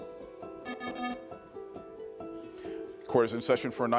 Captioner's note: pensive music continues; buzzer buzzes